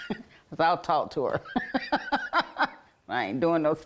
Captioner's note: laughs